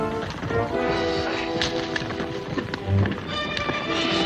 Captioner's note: hooves clomping; dramatic music